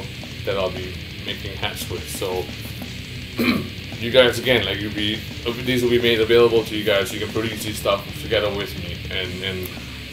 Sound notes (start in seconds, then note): 3.3 clears throat